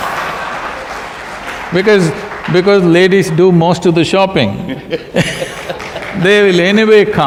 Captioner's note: laughter